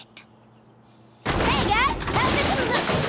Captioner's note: crash